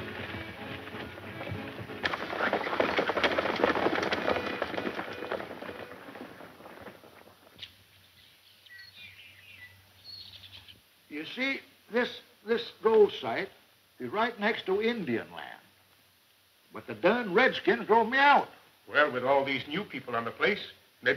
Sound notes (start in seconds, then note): 3.2 horses galloping